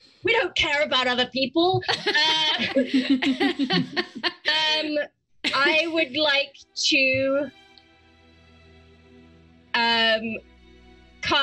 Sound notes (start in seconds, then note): 1.8 group laughs; 7.7 slow orchestral music